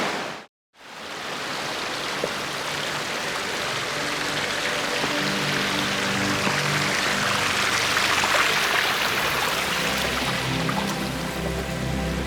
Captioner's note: water sounds and background music